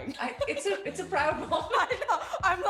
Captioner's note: laughs